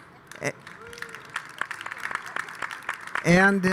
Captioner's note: audience applauding